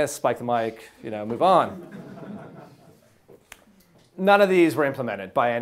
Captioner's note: students laughing